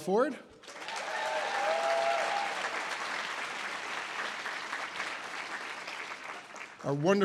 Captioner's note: audience applause